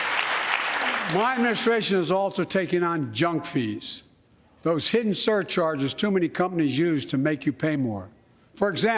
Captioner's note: applause